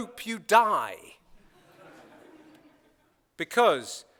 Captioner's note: laughter